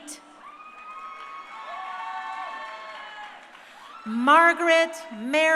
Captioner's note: crowd cheering